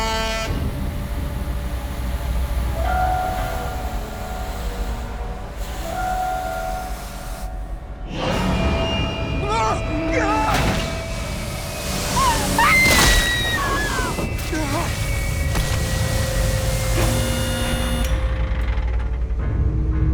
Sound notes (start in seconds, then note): 0.0 horn honks; 8.3 sinister music; 9.4 driver screams; 12.1 body thumping; 12.1 Christina screams; 17.5 machine whirring; 19.9 dark eerie music